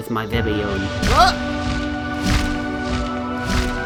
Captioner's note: startled exclamation/wingbeats